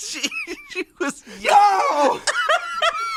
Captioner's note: screams; laughs